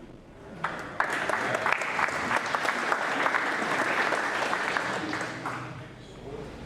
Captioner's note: applause